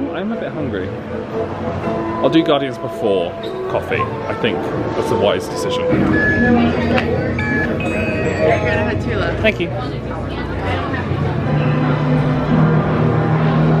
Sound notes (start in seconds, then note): 5.6 electronic beeping; 11.1 bright music